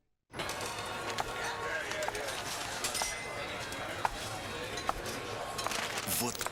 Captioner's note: click of heels